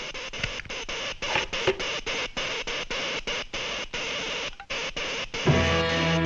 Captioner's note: cash rustling; button clicks; electricity zaps; light dramatic music